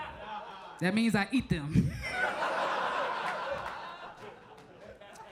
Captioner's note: audience laughs